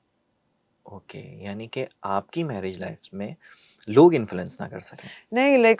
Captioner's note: nasal voice